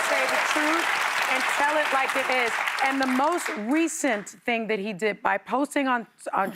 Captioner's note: applause